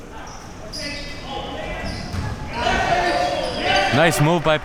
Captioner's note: audience chattering and yelling